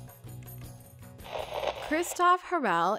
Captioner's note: static